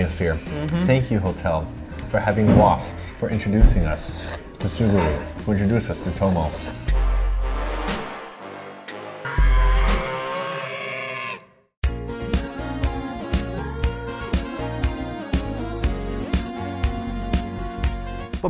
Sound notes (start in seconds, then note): 6.7 intense bass music; 9.2 Godzilla roars